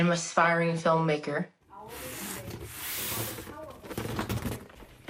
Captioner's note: indistinct chatter